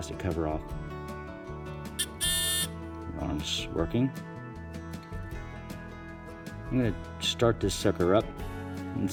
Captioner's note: buzzing sound